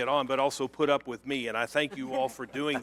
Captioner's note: laughter